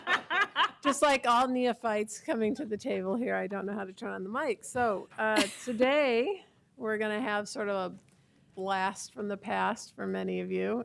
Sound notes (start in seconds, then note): 1.6 laughter